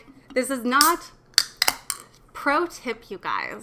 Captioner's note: can opening